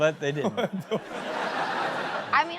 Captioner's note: audience laughing